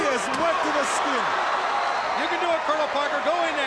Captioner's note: crowd cheering